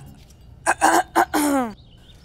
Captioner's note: Padimini clears throat